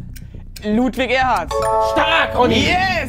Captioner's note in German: Klingeln